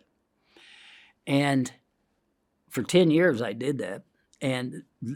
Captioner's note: inhales